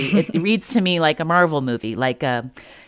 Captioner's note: laughter